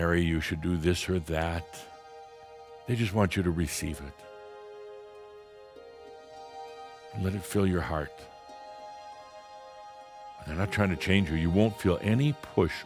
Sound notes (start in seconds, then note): none